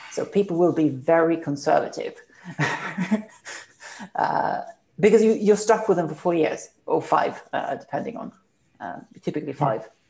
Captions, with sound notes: People will be very conservative (Laughs) Because you are really stuck with them for four or five years Typically five years